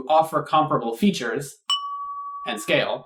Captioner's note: ding!